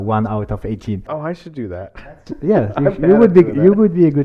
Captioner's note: laughs